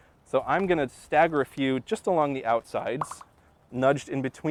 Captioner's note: pop, pop, pop